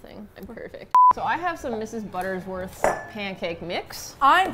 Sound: beep

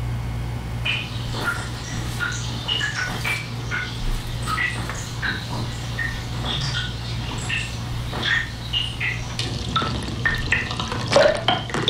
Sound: sounds from glacier

